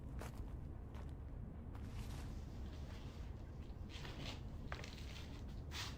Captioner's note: footsteps